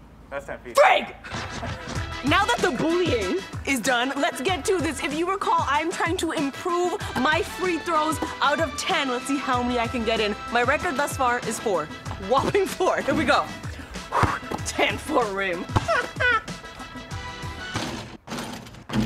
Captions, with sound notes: - That's 10 feet. - Frig! Now that the bullying is done, let's get to this. If you recall, I'm trying to improve my free throws. Out of ten, let's see how many I can get in. My record thus far is four. Whopping four. Here we go. [exhales] 10 foot rim. [laughs]